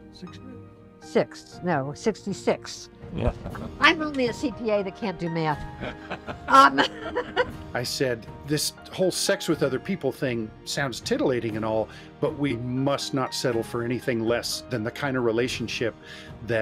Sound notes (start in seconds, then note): 3.0 laughing; 5.6 laughing